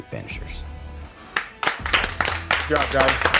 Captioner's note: group applauds